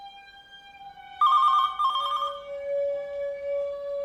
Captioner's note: telephone ringing